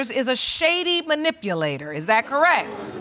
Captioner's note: audience exclaims